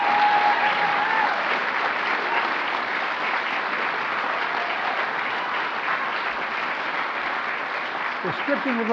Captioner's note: applause